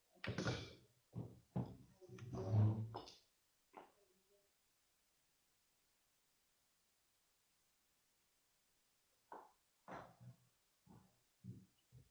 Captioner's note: silence 00:24:47